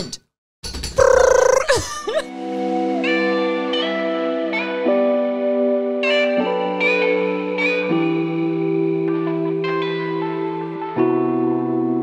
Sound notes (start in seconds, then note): 8.8 brrr